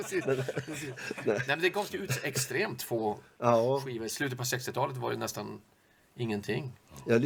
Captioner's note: laugh